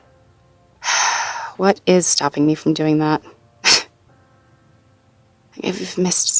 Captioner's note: sighs deeply